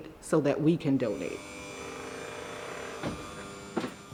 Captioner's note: engine buzzing